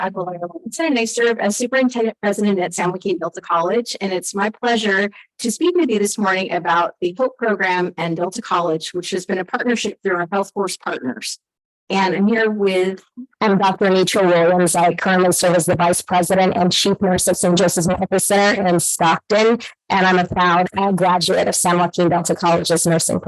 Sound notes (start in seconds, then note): 19.6 audio echoing